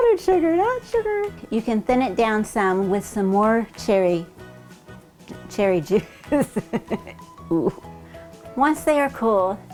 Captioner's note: laughing